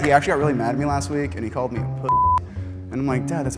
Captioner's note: beep